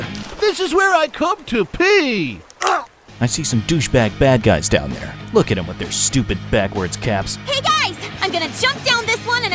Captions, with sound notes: - This is where I come to pee. (grunts) - I see some douche bag bad guys down there. Look at them with their stupid backwards caps. - Hey guys, I'm gonna jump down this one